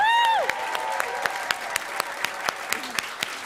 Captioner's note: applause